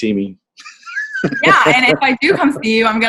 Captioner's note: laughs